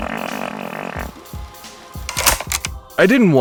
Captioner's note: a long, long drawn out fart sound. A deep breath. Then another long fart sound; tape starts; tape stops